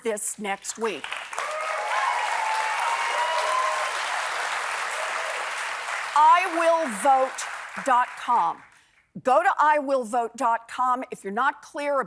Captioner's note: applause